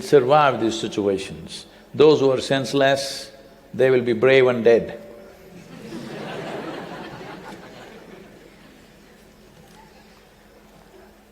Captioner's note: laughter